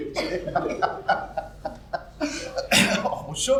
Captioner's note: laughs again